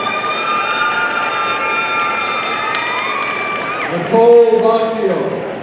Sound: party blower squeaking; audience cheering

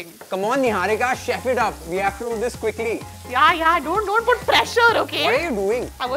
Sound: none

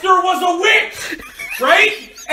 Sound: jk laughing

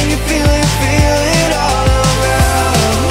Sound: congratulatory cheering

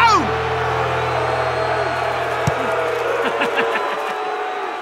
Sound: crowd booing

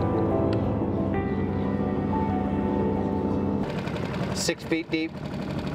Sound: ominous music continues; boat engine revving

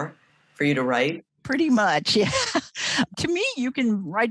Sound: laughs

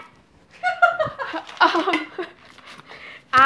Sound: both laughing

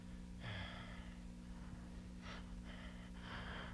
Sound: heavy sigh; frantic sighs

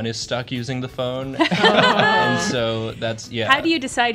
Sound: laughter

